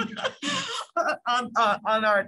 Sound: laughter

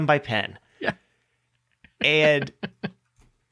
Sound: laughing

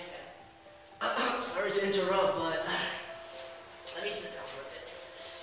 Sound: cough

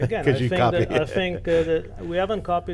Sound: laughs

